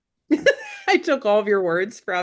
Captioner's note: laughing